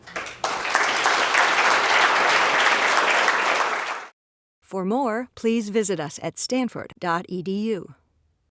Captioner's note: applause